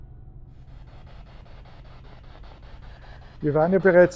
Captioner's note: radio noise from the spirit box